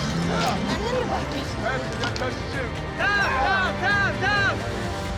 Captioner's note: all chattering